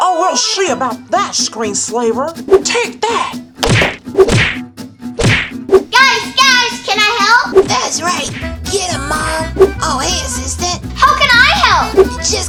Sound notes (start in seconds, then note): 3.6 hitting noises